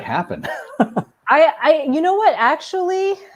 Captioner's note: laughing